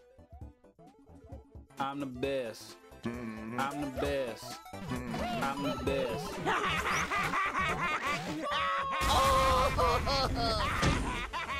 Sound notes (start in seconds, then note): 6.4 SMG4 Laughing